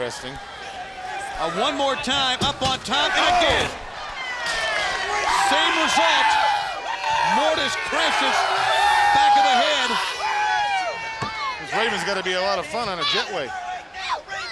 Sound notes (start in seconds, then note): 4.0 crowd cheering; 9.5 crowd cheering; 14.1 crowd chatter